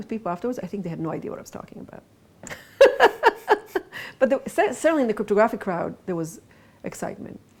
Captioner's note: laughs